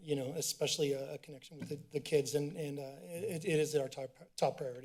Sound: tapping

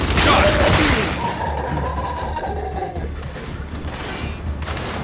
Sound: gunfire

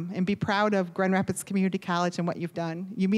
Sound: none

